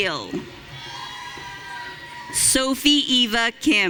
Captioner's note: audience cheering